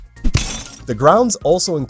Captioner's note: vase smashes